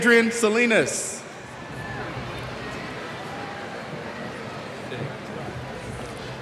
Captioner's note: cheers